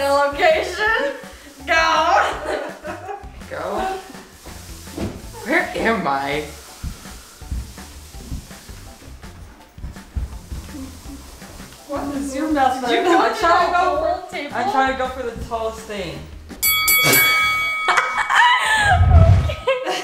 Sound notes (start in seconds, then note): 16.6 fighting bell rings; 17.9 laughing